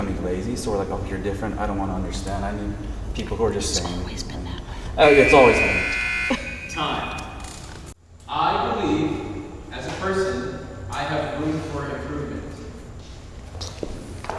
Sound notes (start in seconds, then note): 4.9 alarm